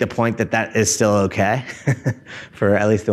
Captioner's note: laughs